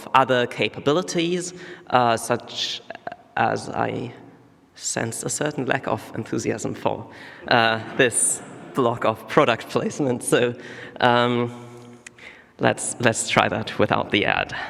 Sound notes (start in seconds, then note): none